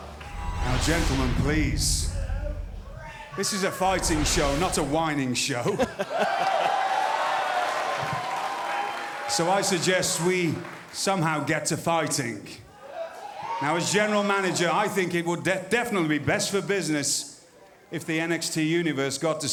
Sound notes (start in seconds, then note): 0.0 fans chanting; 5.6 laughter; 6.0 cheers & applause